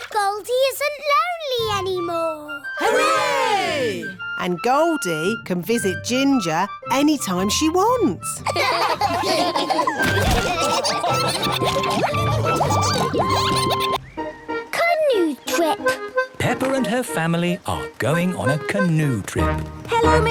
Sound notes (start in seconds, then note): 8.4 all laughing